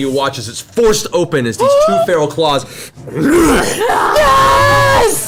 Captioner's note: growls; all cheer